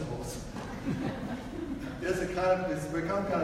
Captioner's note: audience laughs